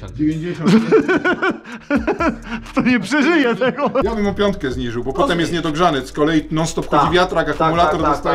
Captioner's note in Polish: śmiech